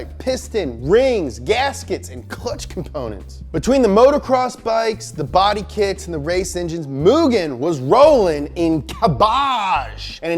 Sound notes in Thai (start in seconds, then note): none